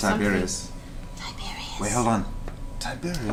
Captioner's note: whispers